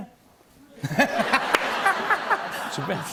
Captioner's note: laughter